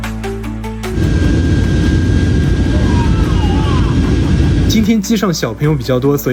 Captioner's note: passengers screaming!